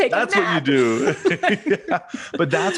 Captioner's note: chuckles; both laughing